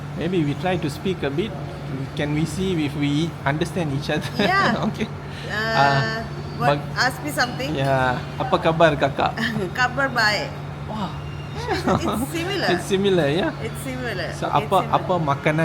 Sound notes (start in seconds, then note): 11.6 laugh